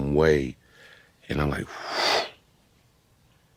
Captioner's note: exhaling